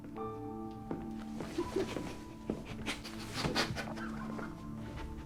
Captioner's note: sobbing